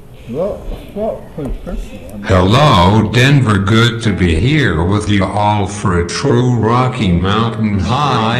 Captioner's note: computer voice